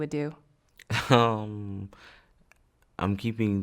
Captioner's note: laughing